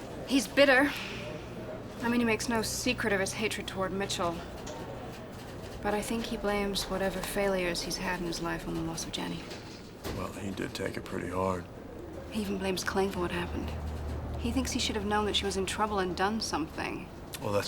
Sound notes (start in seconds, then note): none